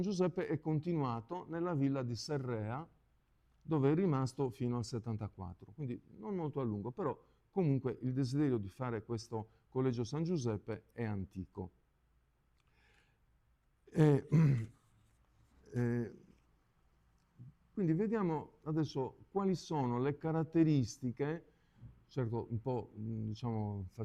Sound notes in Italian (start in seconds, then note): 13.9 schiarire la voce